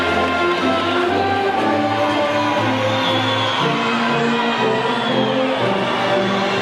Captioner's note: audience faintly shouting and whistling